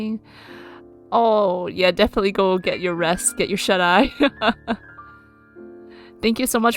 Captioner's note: laughs